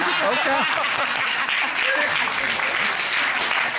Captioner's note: applause